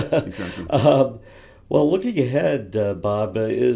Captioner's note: laugh